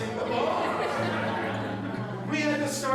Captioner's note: laughter